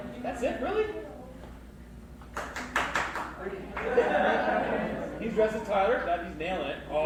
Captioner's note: clapping off stage, audience laughs